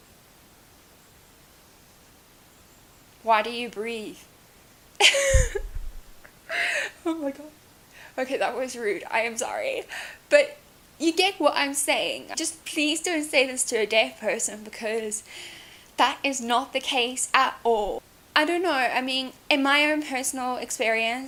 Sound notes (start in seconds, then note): 5.0 laughs